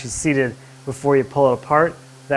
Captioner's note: sander whirring